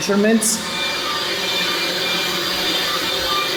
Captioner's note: pipes hum